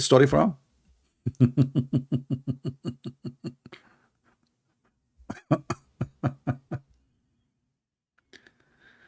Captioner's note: Ketawa